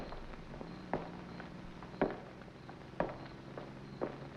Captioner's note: heels thudding